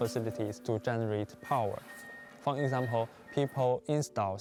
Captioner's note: speaking Chinese